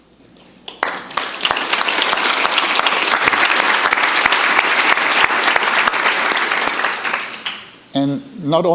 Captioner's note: audience applauding